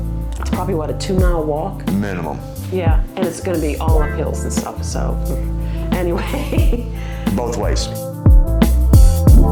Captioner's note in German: lacht